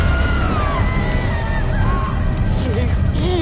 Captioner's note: wailing, crying; woman screaming